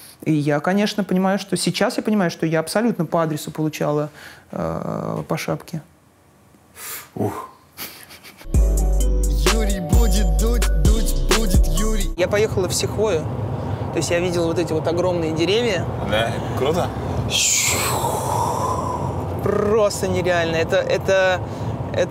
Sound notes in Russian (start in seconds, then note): 7.8 Ира смеётся; 8.4 музыкальная заставка